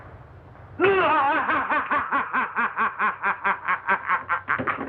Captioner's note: maniacal Laughter